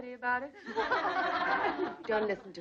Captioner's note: girls laughing